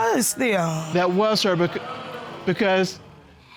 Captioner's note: audience exclaims